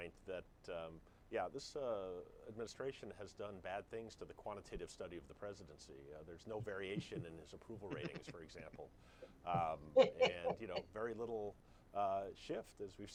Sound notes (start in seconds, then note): 6.4 Jonah laughs; 9.5 Mara laughs